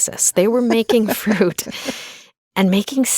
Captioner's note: laughing